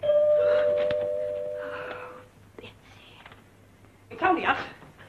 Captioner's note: sigh